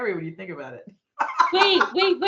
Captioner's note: laughing